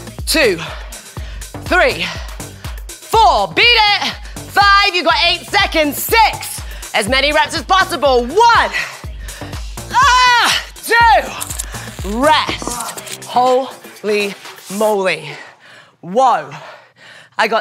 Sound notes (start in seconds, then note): 9.9 screaming; 13.1 yelling